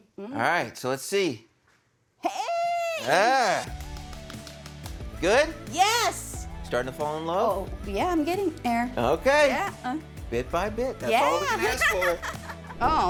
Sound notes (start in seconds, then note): 3.6 clapping